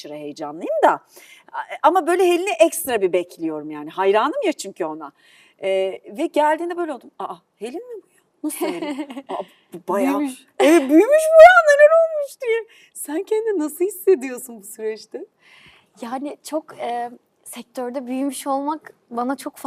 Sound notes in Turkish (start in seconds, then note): 8.5 kahkaha